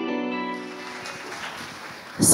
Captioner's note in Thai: เสียงปรบมือ